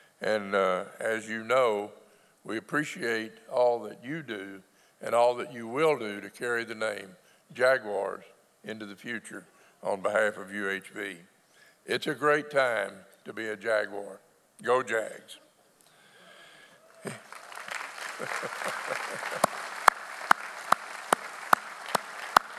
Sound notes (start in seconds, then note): 16.9 audience applauds; 17.0 claps; 17.9 laughs